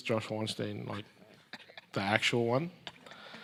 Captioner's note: laughs